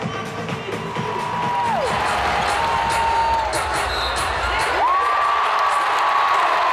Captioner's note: large crowd cheers